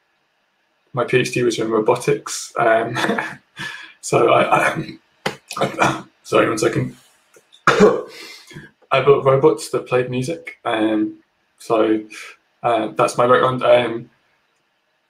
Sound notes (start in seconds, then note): 2.8 laughs; 4.7 coughs